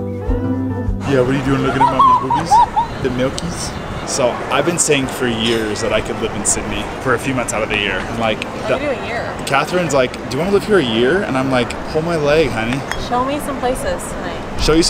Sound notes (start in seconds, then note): 2.2 laughing